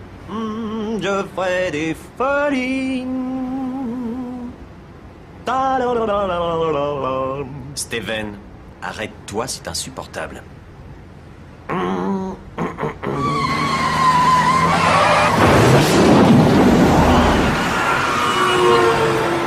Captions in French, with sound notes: Je ferai des folies Ta la la la la -Steven, arrête-toi. C'est insupportable. -Hm... Hm, hm, hm ! [Crissements] [Klaxons]